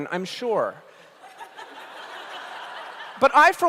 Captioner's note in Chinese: 笑聲